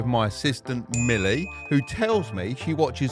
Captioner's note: bell dinging